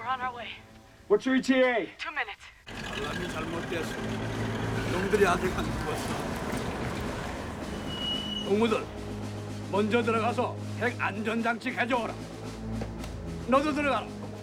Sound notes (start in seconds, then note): 2.4 Korean